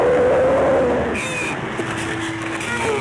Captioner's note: straining